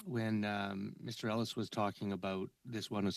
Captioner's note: speaking French